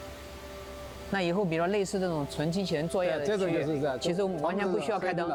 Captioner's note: speaking chinese